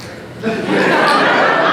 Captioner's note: audience laughter